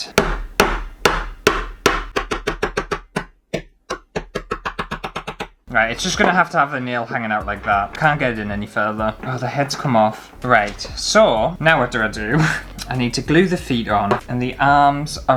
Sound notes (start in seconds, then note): 0.0 hammering; 2.0 faster Hammering